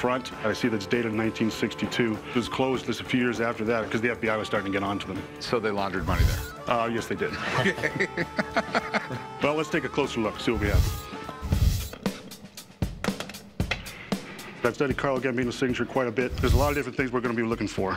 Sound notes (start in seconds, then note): 7.3 laughter